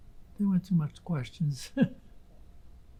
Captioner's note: laughing